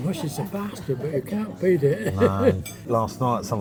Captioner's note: laughs